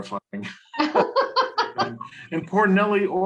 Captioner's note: laughter